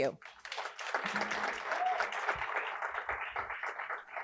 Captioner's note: audience applauding